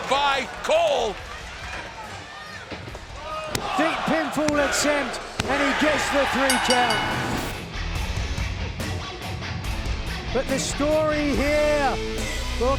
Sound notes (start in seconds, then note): 1.3 fans chattering; 6.4 bell dings; 8.1 energetic rock music